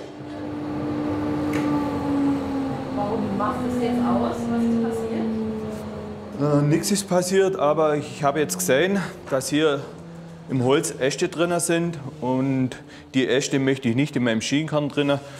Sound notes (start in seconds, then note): 1.6 whirring gets lower